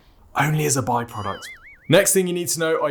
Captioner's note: spring boings